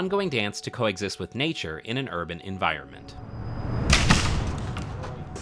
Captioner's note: branch cracks